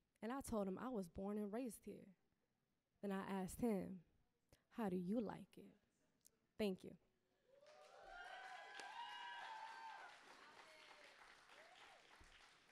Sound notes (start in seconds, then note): 7.5 audience clapping and cheering